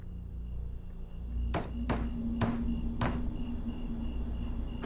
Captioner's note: hammering